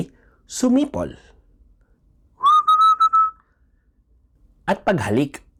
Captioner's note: whistling